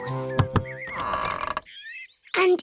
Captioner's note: door creaks